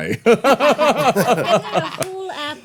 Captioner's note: everyone laughing